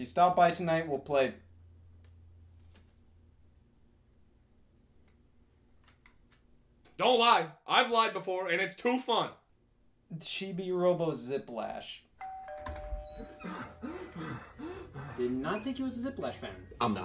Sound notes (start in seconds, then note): 12.2 doorbell rings; 12.5 door squeaks; 13.2 panting